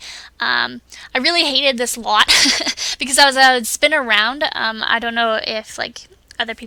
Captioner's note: laughs